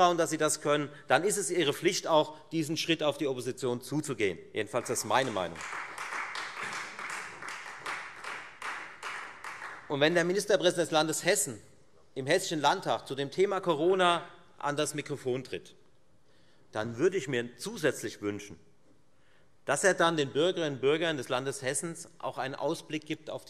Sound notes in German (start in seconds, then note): 6.3 Beifall Freie Demokraten